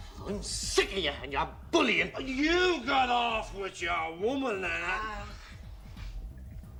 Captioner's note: gemidos